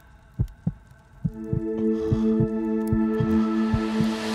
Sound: heart beating

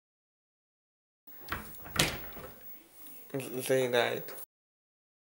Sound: sound of opening the cabinet door

